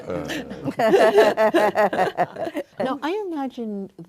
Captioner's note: all laughing